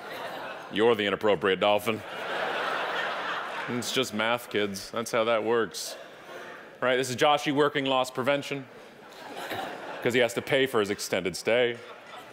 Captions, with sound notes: your the inappropriate dolphin. (audience laughing) That's just math, kids, that's how that works. Right, this is Joshie working loss prevention, 'cause he has to pay for his extended stay.